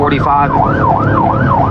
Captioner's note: wararnining s sirirens